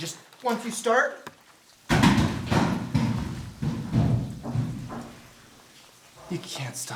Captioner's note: crashing rockfall